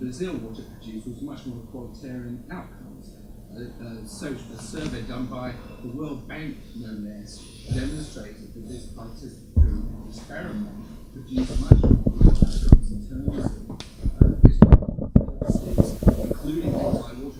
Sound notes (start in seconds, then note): 6.6 speaks faintly